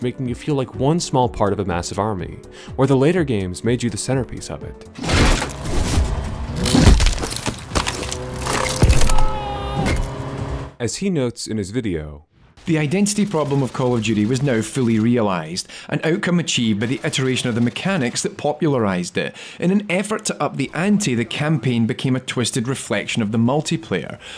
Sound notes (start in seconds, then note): 8.8 thug screams; 9.6 bonk